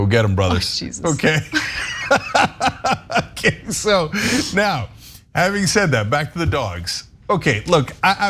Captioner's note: laugh